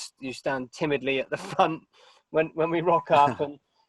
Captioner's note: chuckling